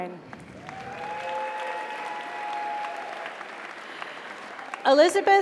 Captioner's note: audience applauds; audience cheers